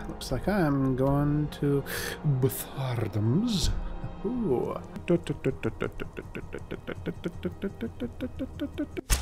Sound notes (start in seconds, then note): 1.8 inhale